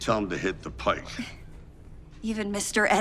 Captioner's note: Karen giggles